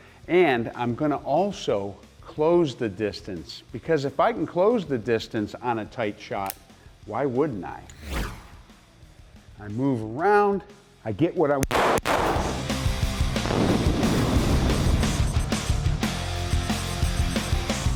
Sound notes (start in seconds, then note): 11.6 gunshots; 12.0 rock music